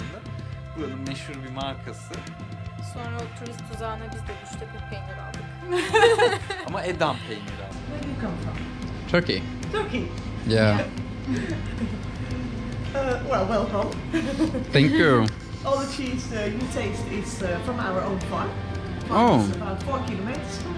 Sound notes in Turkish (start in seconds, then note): 5.7 kahkahalar